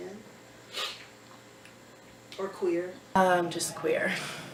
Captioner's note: sniffs